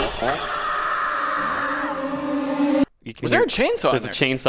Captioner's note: person screaming; chainsaw buzzes